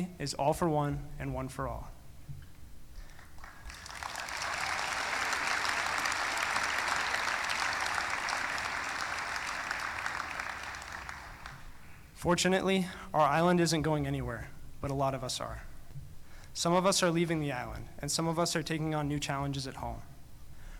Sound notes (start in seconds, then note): 3.0 applause